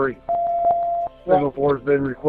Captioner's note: beep